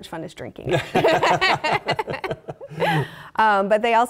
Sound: laughter

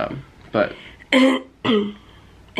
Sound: clears throat

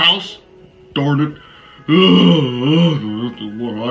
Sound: yawns

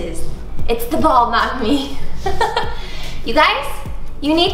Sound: laughs

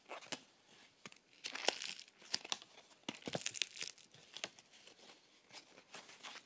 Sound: sound of glue breaking and crinkling

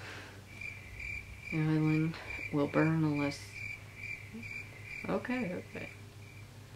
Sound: crickets chirping

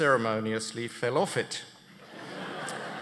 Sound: laughter

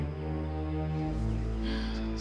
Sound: gasp

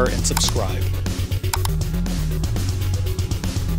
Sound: mouse clicking; rock music

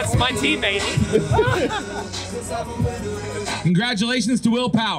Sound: man laughs

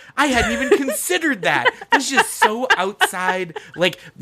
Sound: laughs

